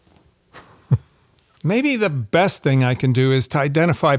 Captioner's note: laughs